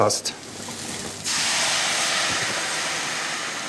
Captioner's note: hissing